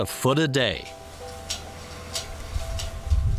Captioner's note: hops harvesting sounds